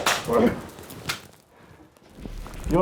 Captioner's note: gunshots